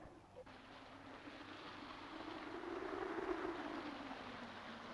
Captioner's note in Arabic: هبوب الريح